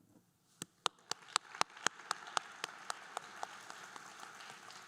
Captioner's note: group applauding